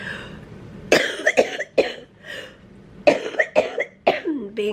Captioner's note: coughing